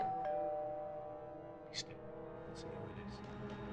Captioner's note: doorbell rings; whispering